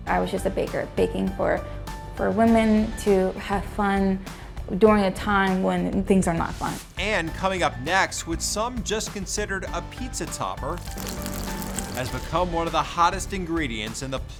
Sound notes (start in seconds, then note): 10.6 food sizzling